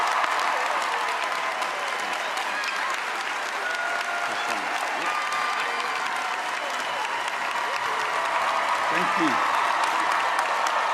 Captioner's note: cheers and applause